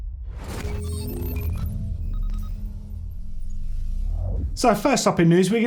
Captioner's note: intense instrumental music; electronic beeping